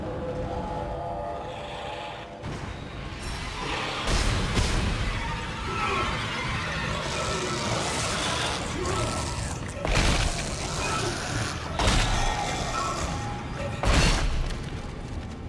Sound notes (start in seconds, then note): 4.6 gunshots; 12.8 dramatic music; 14.3 gunshots; 15.2 dramatic music